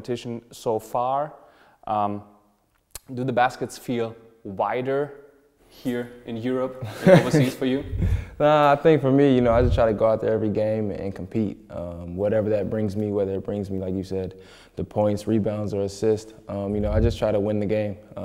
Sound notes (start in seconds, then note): 6.9 lacht